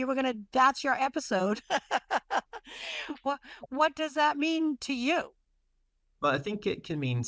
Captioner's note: laughs